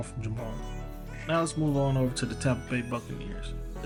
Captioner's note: voiceover